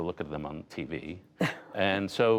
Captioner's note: laughter